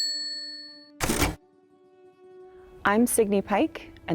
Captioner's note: bell dinging